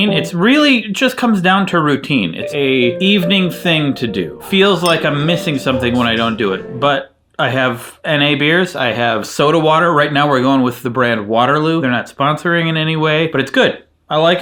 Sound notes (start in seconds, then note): 4.7 glasses clinking